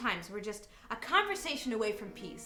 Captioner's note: none